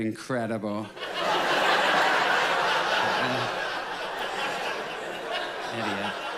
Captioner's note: audience laughs loudly